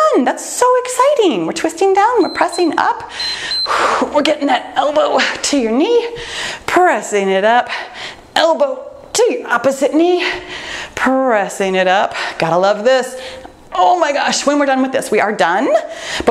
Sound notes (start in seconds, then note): 2.1 timer beeps